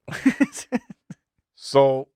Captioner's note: laughing